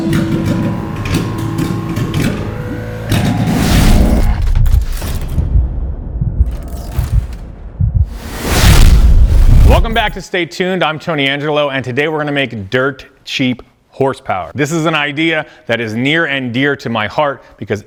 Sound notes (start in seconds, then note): 0.0 engine sputters softly; 3.7 air whooshing loudly; 4.3 heartbeat throbs softly; 8.0 air whooshing loudly; 8.1 soft electronic glitching